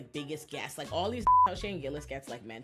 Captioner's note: beep